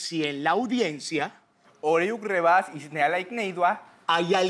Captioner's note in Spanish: Habla al revés